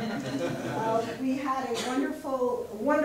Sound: audience laughter

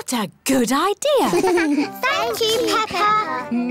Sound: all giggle

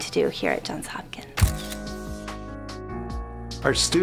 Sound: camera shutter clicking

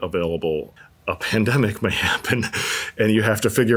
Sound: chuckles

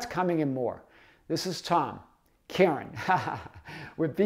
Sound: laughs

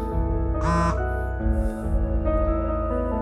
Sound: cell phone vibrates

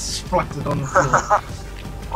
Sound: laughs

